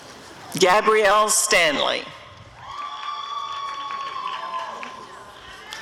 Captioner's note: applause and cheering